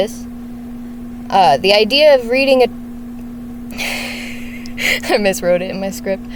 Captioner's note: laughs